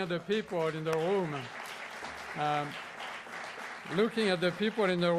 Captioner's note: applause